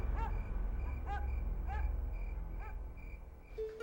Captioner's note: barking